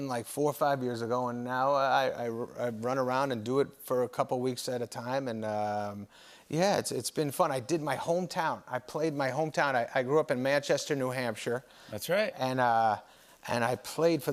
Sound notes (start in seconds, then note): none